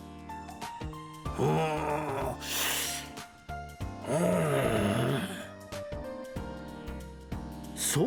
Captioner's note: slurp, slurp, slurp